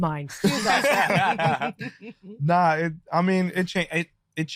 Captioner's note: group laughing